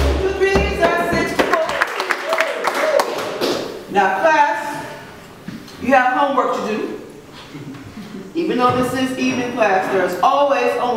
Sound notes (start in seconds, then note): 1.3 applause